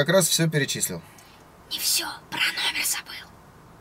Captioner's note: whisper